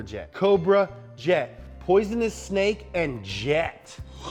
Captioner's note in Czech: none